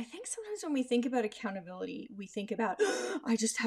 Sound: gasps

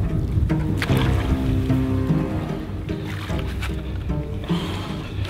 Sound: water splashing

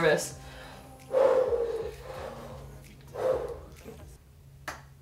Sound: another deep breath; deep breath

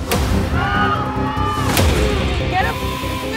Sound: contestants yelling; music bangs

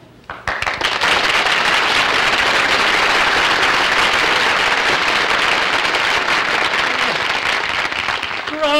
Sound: applause

